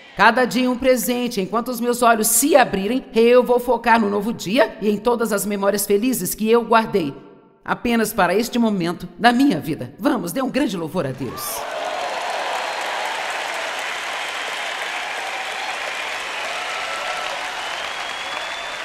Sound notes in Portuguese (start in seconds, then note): 11.5 audiência aplaude